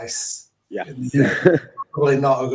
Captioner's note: laughs